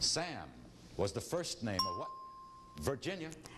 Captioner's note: ding